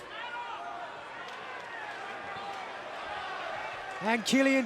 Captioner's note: fans chattering